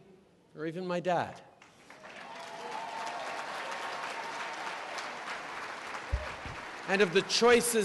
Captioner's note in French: Applaudissements